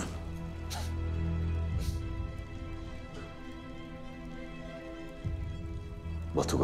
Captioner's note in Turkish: Öksürük sesleri